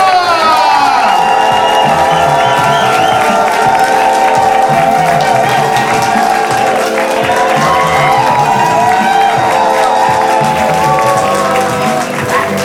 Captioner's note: cheering